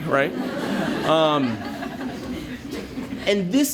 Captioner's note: laughter